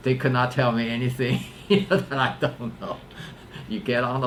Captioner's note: laughs